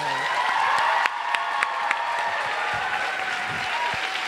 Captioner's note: crowd applauds